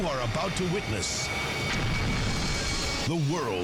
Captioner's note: explosion rumbles